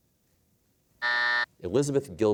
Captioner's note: buzzer sounds